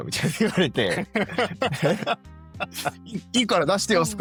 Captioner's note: laughs